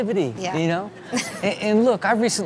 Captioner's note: Chanel laughing